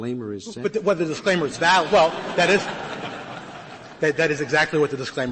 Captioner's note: laughter